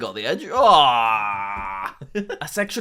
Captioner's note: laughing